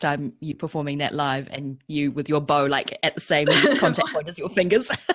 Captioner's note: laughs